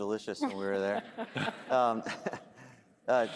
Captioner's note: laughter